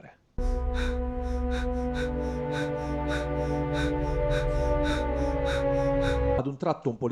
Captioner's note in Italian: Respiro affannoso